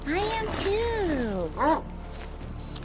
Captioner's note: barks